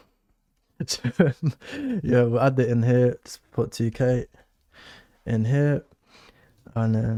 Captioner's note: laughs